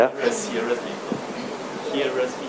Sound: speaking in foreign language

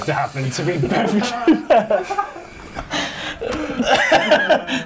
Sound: laughter

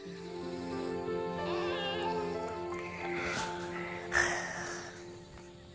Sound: both yawning

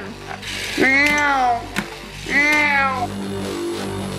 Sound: engine noises

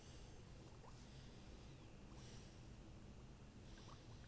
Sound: deep breathing

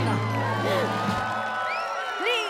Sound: both gasp

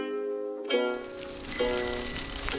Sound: bike bell rings

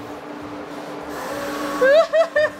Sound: machinery humming; machinery whirring

